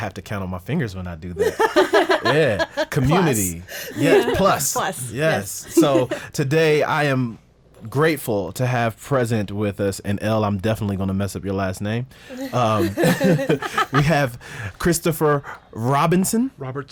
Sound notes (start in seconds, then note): 1.4 women laughing; 12.3 group laughs